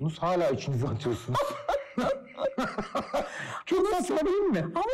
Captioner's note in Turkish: Gülüyor